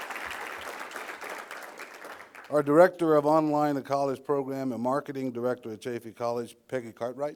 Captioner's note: applause